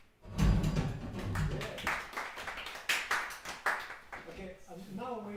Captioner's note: applause